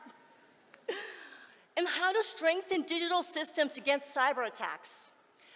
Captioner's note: laughs